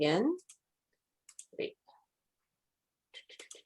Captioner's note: mouse clicks